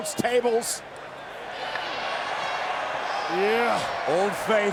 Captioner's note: crowd cheering